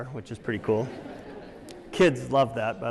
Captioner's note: laughter